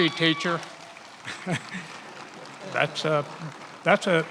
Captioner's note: attendees applauding and cheering